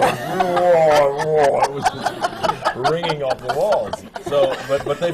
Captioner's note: laughter